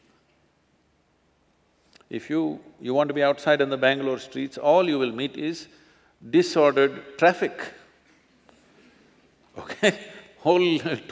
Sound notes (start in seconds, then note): 9.5 laughs